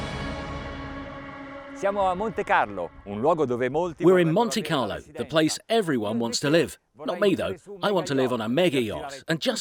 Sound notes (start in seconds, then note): 2.3 speaking Italian